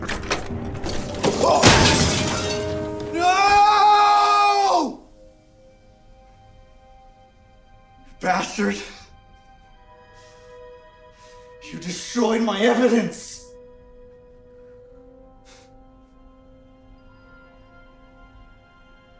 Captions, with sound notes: - Oh! (glass crashes) No! You bastard! You destroyed my evidence! (eerie music)